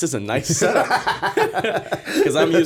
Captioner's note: laughter